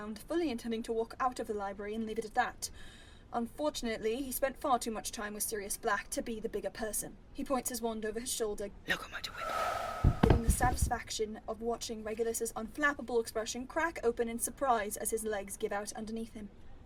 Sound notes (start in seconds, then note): 9.3 wind gusts